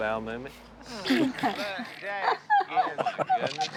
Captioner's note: laughter